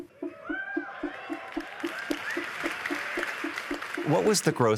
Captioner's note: cheering and applause